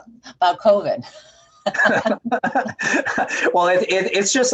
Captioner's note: laughing